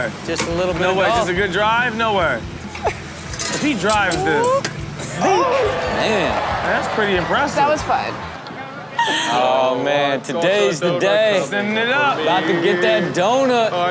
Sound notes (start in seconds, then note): 5.1 Rob vocalizing